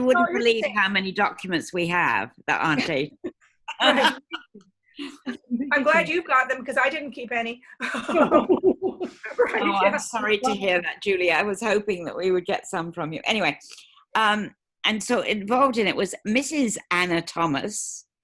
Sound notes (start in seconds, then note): 3.6 laughs; 9.3 chuckles